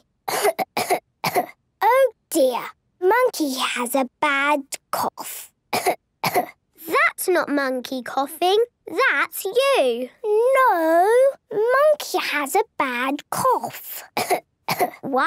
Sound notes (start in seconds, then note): 0.3 she pretends to cough; 6.2 pretending to cough; 14.6 pretending to cough